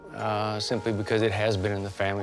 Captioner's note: none